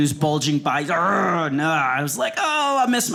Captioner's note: growling